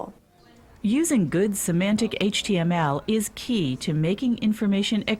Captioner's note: voiceover